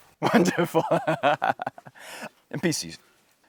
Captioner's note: laughs